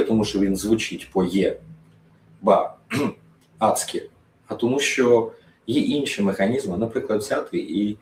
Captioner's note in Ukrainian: прочищення горла